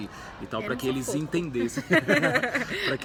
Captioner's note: chuckles